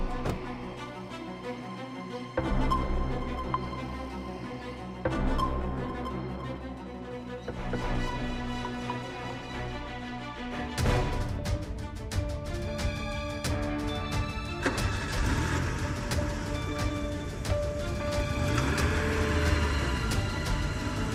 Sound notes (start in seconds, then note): 0.1 suspenseful music continues; 17.9 engine starts